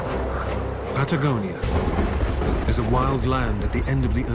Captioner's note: dramatic music; voiceover